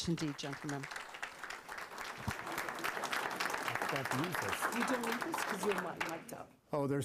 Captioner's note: applause